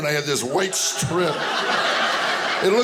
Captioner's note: audience laughing